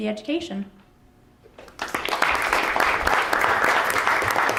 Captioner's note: applause